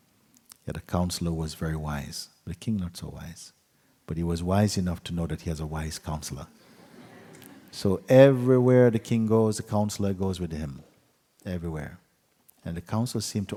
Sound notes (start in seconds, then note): 6.7 laughter